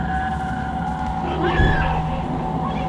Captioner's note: screaming